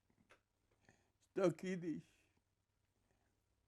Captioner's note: hebrew